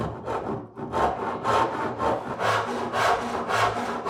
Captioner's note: saw scraping